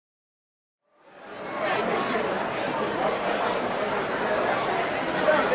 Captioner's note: audience murmuring